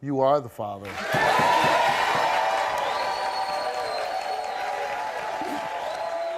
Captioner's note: audience cheering and clapping